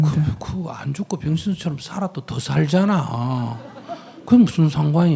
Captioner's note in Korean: 청중 웃음